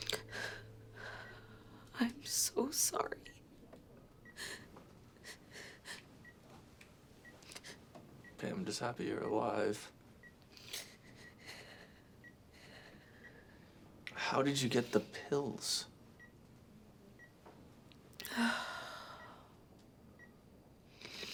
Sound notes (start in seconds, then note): 0.0 Ashley sobs over beeping monitors; 5.2 sobs; 10.7 Ashley sobbing; 18.2 Ashley sighs; 21.1 Ashley snivels